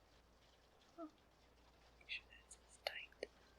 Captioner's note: whispers